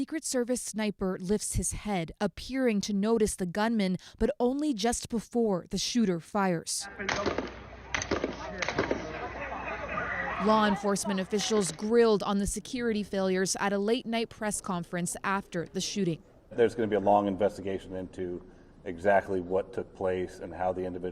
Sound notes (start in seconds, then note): 9.4 shots